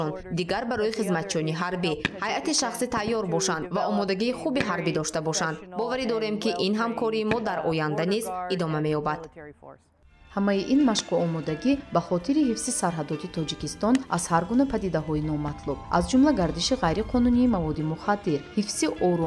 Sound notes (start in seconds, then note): 10.8 journalist narrating in tajik